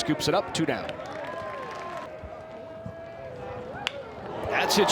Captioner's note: fans cheer